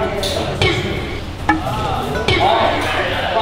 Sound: humph

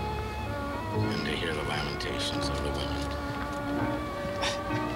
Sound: laughing

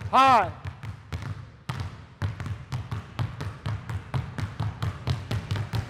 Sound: balls continue thudding

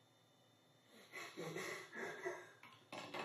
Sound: laughing

